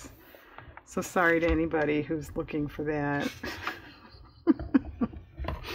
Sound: laughs

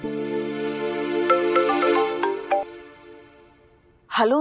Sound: phone Ring

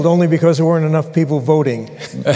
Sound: laughter

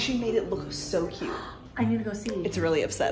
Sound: gasping

